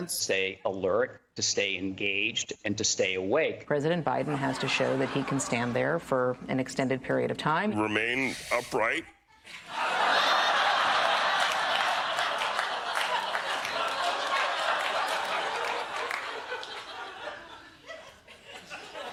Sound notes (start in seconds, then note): 9.5 laughter; 10.9 clapping